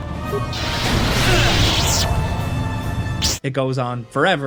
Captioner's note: Revan grunting